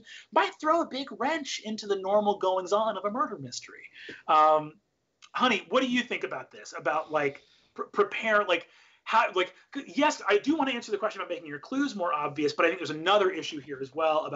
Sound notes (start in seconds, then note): none